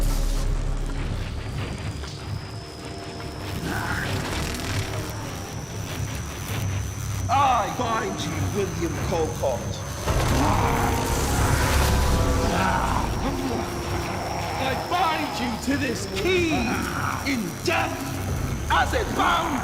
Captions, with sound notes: [electricity crackling] [tense music] [William growls] I bind you, William Colcott. [William growls] [electricity crackling] I bind you to this key in death, as it bound you in life!